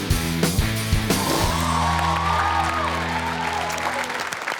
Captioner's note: upbeat rock music; crowd cheering